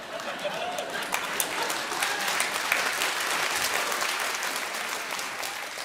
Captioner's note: audience laughing and clapping